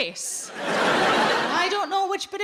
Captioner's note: audience laughing